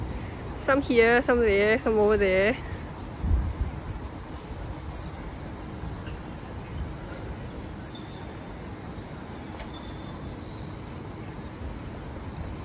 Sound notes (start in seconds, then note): 6.9 echoing of otter chirps under the bridge